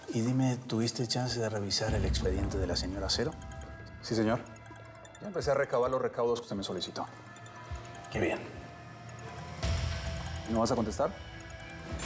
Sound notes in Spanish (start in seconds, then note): 0.0 suena un celular; 3.2 suena el celular